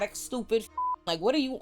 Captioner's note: beep